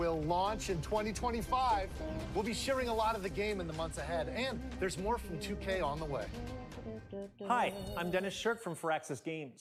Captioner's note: doo-doo'ing